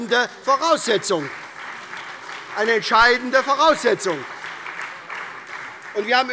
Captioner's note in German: Beifall SPD und vereinzelt AfD